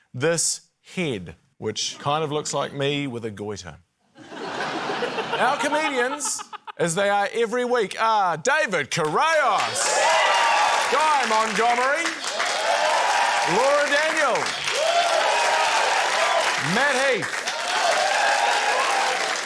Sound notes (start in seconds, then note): 4.1 laughter; 9.6 cheering, applause; 12.2 cheering, applause; 14.9 cheering, applause; 17.8 cheering, applause